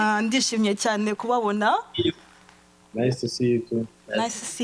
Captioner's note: speaking foreign language